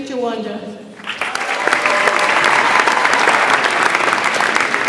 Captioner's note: audience applauds